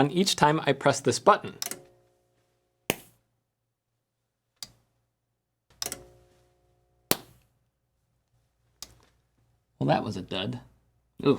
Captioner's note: pop